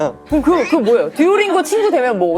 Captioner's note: gasps